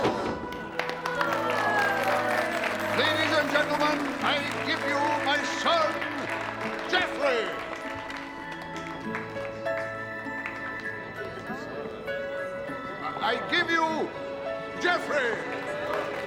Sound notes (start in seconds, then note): 0.1 gasping, applauding; 12.1 crowd murmuring